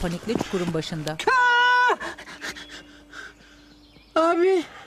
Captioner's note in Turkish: Bağırma sesi